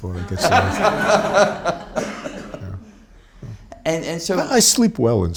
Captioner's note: audience laughs